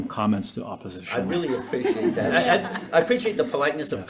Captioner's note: senators laughing